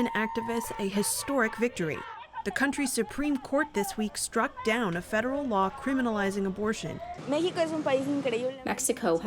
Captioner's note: chanting